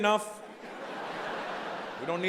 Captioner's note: audience laughing